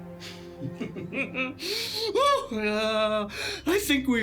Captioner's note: Eric laughing